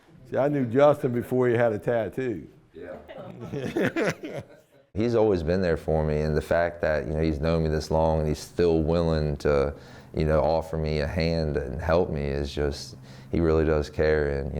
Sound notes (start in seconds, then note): 3.4 laughing